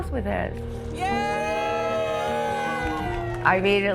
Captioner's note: group cheering